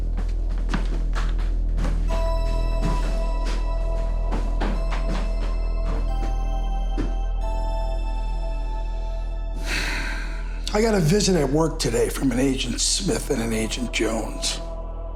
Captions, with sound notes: (tense menacing music) (Joseph sighs) - I got a visit at work today from an Agent Smith and an Agent Jones